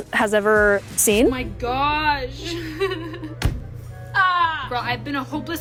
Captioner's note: laughing